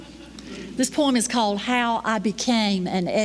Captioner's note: laughter